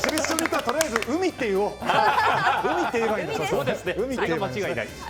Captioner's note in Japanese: 拍手; 大歓声